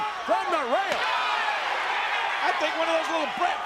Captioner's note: audience cheers